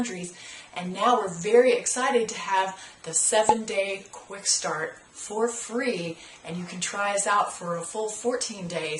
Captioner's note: pop